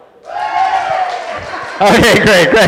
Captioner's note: cheering